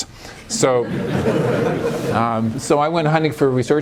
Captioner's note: laughter